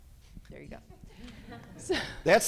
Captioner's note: chuckles; people chuckling